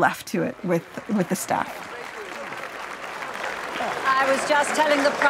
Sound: crowd cheering

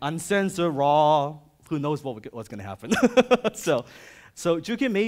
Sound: chuckles

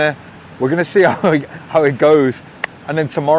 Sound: chuckles

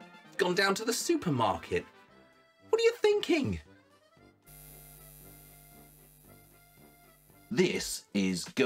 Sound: logo buzzes

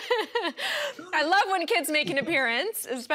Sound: laughs

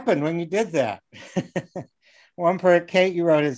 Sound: laughing

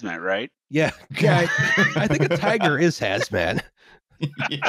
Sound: laughter

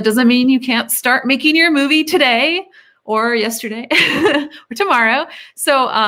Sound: laughs

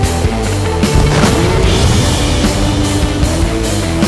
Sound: hardrock music; blasting sound; hardrock music

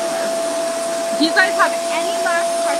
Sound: RevAir whirs

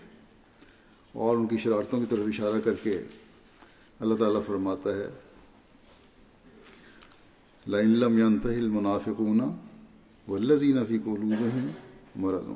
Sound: Arabic

